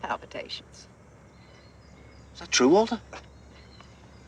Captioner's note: scoffing